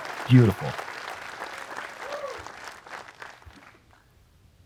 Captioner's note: applause